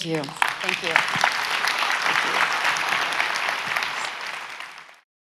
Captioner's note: audience applauds